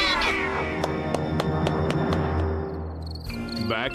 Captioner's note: claps hands